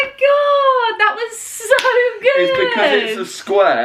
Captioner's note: hands slapping